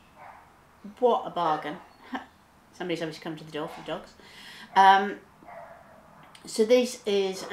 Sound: dogs barking inside

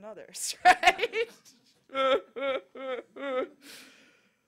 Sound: laughter

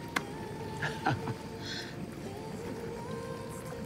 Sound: laughs

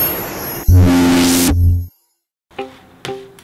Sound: buzz

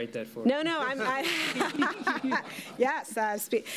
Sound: laughter

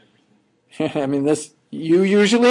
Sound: chuckling

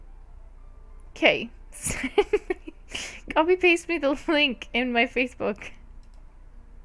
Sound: giggles; laugh

